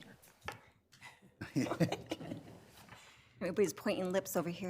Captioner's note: panelists laughing